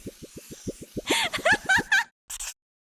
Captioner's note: insane laughter